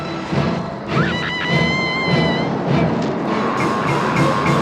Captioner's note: screams